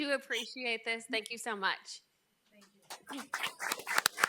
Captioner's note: speaks faintly; attendees and members applauding